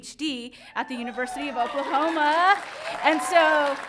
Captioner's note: audience cheering